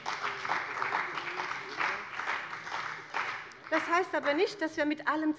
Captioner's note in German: Beifall bei dem BÜNDNIS 90/DIE GRÜNEN und der CDU